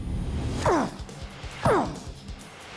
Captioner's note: grunting